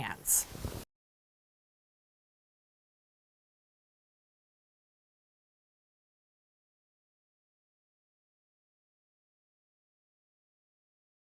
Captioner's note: no Sound Present